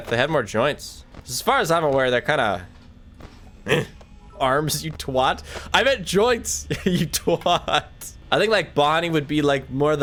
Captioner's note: laughs